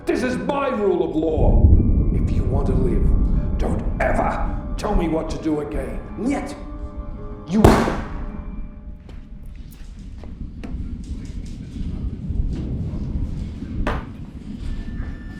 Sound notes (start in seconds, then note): 6.5 speaking in a foreign language; 7.6 gun firing; 10.9 thunder crashing